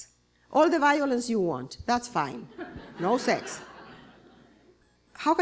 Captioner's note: laughter